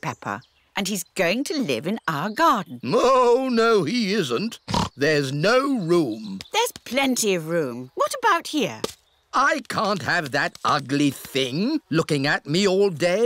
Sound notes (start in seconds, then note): 4.6 oinks